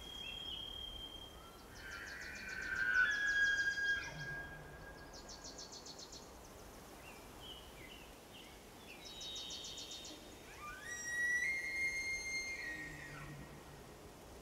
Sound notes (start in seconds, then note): 4.8 birds singing